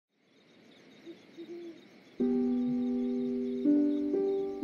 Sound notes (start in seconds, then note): 1.0 owl sound